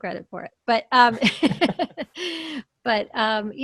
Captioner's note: laughs